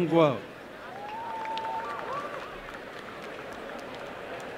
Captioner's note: applause